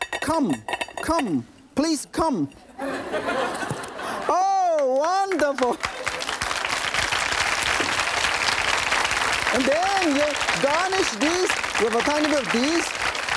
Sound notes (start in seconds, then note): 2.8 audience laughing; 6.6 audience clapping